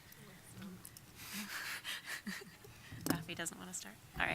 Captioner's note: lightly laughing